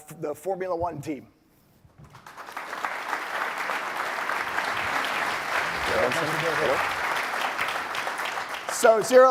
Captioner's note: applause